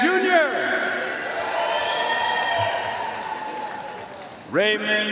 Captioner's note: audience cheering and applauding